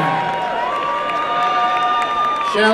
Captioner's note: applause and cheering